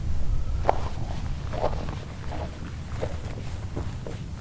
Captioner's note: footsteps on a dirt road